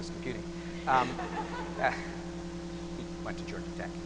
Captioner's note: laughing